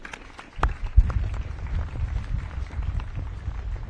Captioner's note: audience claps